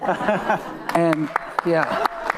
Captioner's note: panelists and attendees laughing; attendees clapping; attendees cheering